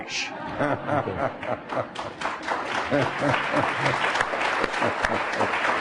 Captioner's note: applause